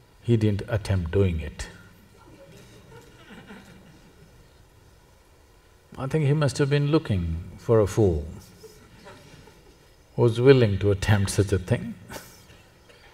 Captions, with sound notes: he didn’t attempt doing it (Laughter). I think he must have been looking for a fool, who was willing to attempt such a thing (Laughs),